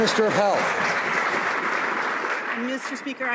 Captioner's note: some Applause